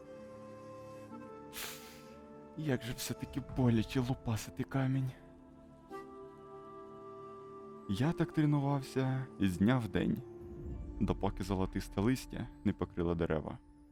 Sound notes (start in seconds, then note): 1.6 snorts